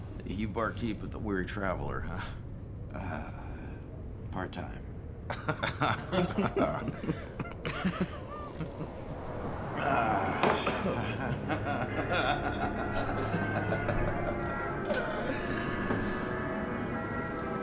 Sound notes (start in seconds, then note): 5.2 laughing; 14.1 suspenseful music